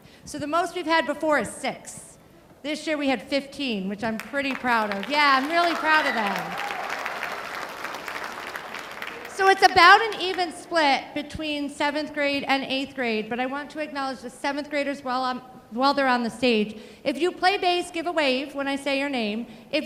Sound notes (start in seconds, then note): 7.6 audience applauding